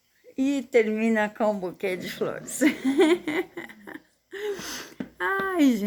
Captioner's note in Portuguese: risadas